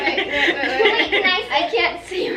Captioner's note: everyone laughs